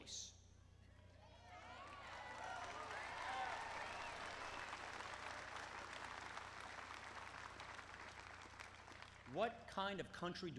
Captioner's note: applause